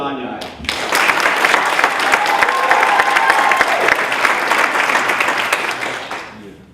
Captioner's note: applause